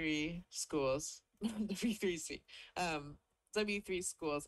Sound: chuckles

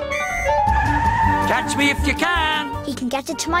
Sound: tyres screech

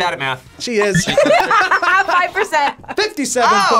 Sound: laughs

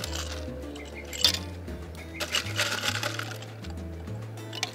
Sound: ice clinking

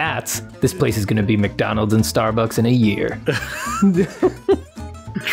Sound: laughter

